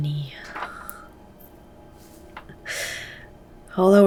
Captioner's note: Naomi chuckles gravely